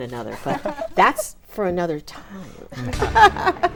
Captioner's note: laughs